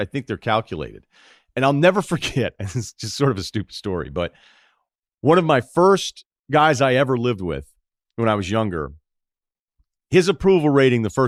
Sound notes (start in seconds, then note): 2.3 laughs